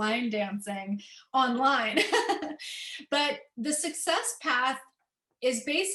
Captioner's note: laughter